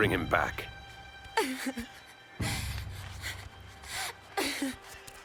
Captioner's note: crying